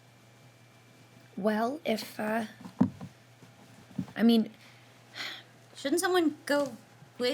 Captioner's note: sighs